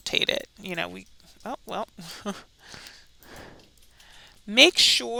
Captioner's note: chuckles